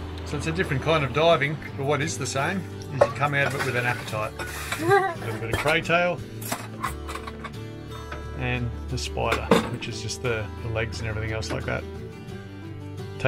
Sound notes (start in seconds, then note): 0.0 relaxing guitar music; 4.9 laughs